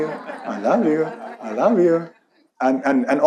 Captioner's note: audience laughs